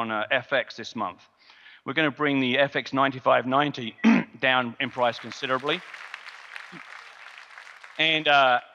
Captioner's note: audience clapping